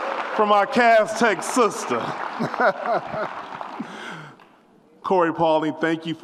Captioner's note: laughs